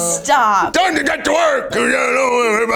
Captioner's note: in puppet voice